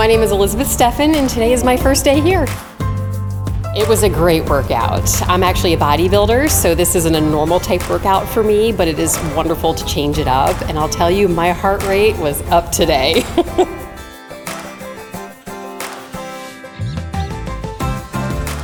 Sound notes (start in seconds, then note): 12.8 chuckles; 15.2 upbeat music